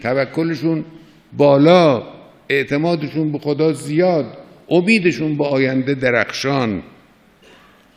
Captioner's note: speaking in Arabic